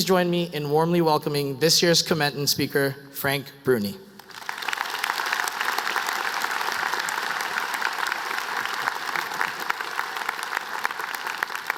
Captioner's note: applause